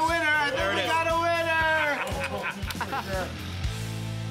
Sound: laughter

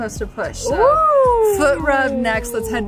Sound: cheers

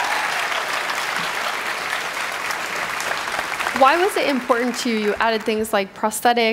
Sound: cheering; applause

